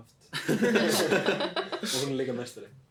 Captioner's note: hahah